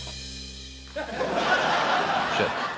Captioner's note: laughter